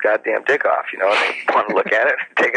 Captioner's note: laughs